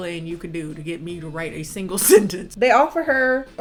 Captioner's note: laughs